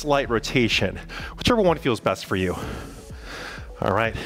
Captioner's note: panting